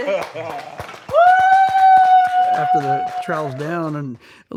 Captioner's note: judges applaud